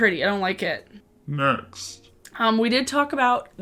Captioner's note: deep voice changer